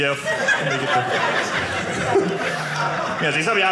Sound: audience laughing

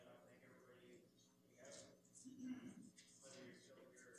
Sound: speaks off mic

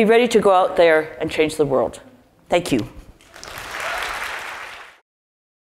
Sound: applause

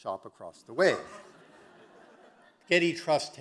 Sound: audience laughing

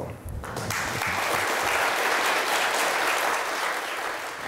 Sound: clapping

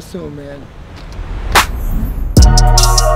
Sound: clap; upbeat music

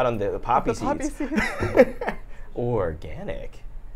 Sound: laughs

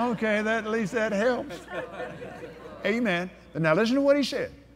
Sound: laughs

